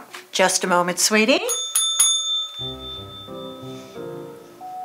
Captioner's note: bell dinging